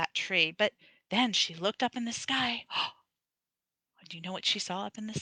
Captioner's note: gasps